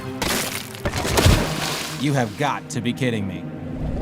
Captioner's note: splashes